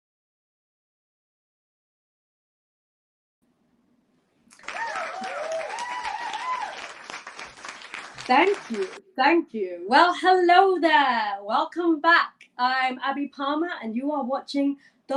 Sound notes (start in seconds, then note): 4.5 applause